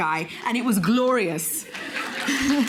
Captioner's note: applause; laughter